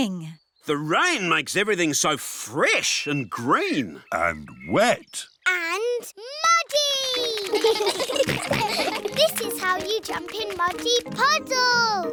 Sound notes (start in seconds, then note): 7.1 children giggle